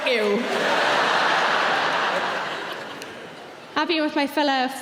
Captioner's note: audience laughing